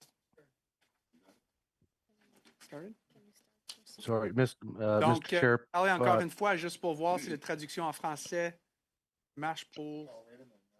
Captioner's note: speaking French